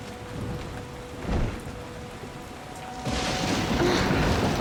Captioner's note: thunder